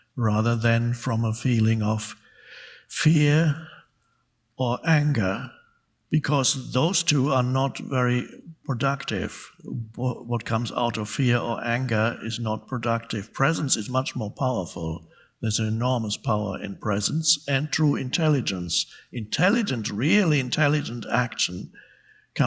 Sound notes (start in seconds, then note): none